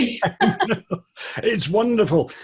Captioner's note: laughing